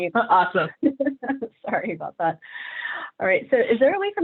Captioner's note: chuckles